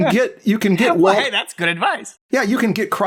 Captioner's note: laughs